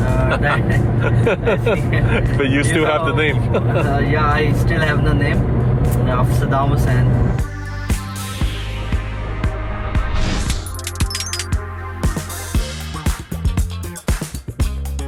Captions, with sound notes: (both giggles) - But you still have the name. - Yeah, I still have the name of Saddam Hussein. (upbeat music)